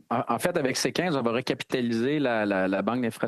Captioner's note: speaking French